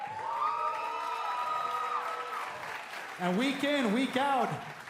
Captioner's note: cheers & applause